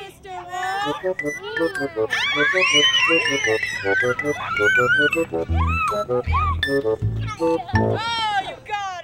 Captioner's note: children screaming with glee